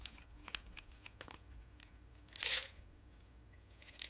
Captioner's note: sounds of pills rattle in bottle